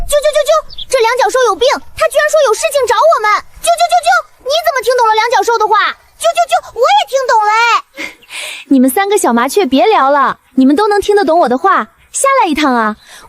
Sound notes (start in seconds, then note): 0.0 chirp chirp chirp; 3.6 chirp chirp chirp; 6.3 chirp chirp chirp